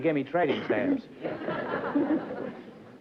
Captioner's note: laughter